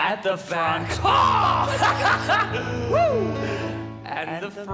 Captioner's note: laughing